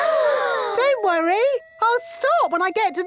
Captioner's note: children gasp